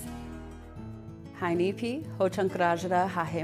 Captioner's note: speaking Ho-Chunk